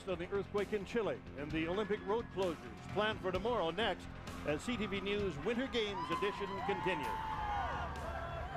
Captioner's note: cheering